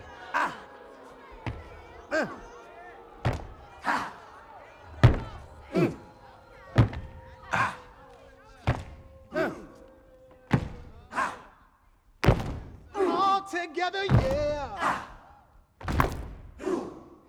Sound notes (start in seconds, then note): 3.2 thudding; 4.7 crowd; 4.8 stomping